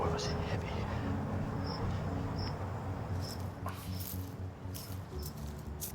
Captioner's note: crickets chirping continues